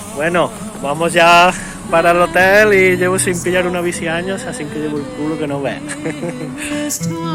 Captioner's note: laughs